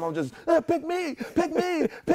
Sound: laughter

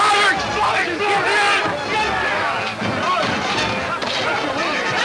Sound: men yelling simultaneously; exiting orchestra music

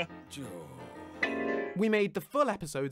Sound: clang!

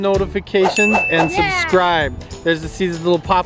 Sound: bell ringing

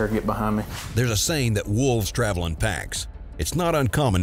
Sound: voiceover

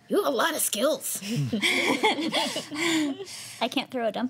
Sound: laughing

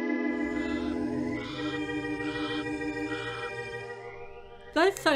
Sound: birds chirping

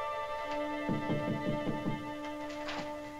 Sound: knocking

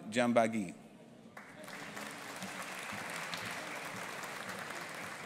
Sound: audience applauding

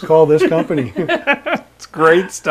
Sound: laughing

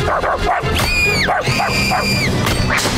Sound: barking; screaming

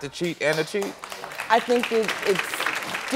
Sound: audience clapping

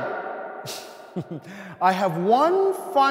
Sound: laughs

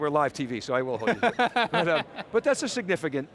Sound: laughing

